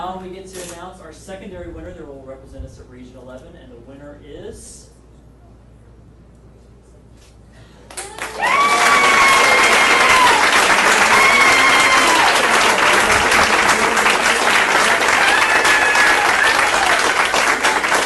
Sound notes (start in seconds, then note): 8.1 all clapping and cheering